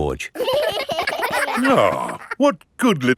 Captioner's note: giggling